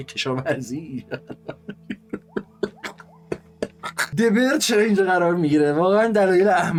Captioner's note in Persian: خنده